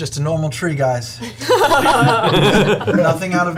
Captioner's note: all laugh